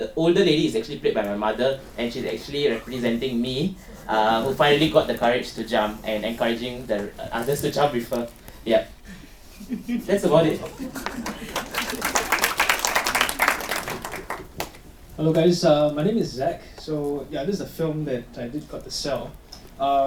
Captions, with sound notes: older lady is actually played by my mother and she's actually representing me who finally got the courage to jump and encourage the others to jump with her Yeah [Audience giggles] That's about it [Applause] Hello guys, my name is Zach so yeah this is a film that I did sell